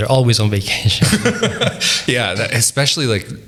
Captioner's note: laughing